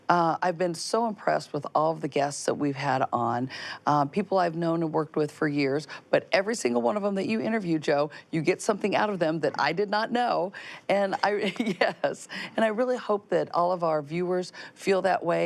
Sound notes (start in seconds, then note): 11.1 chuckles